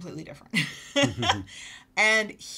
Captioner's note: laughing